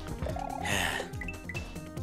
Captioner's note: sigh